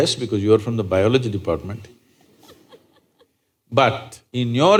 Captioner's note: few Laugh